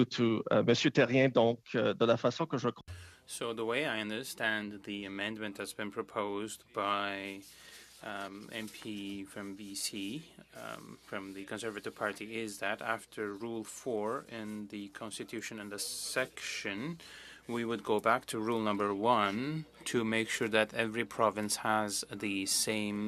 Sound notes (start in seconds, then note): 6.9 speaking French